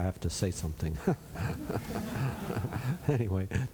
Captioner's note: laughter